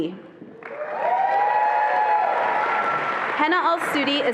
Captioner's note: attendees applauding and cheering